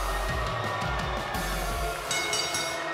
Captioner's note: bell ringing